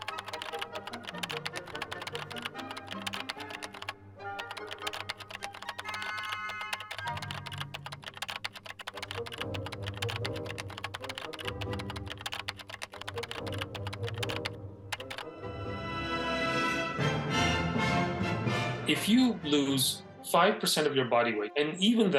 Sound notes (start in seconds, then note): 1.1 dramatic music continues; 1.1 keyboard clicking; 11.8 dramatic music continues